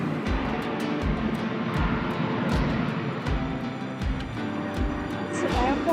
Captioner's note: sound of airplane engines